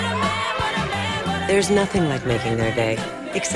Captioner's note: laughing